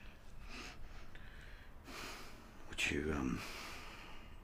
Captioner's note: sighs